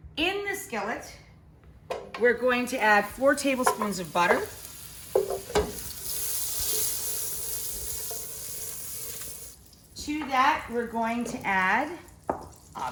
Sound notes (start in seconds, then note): 5.6 butter sizzling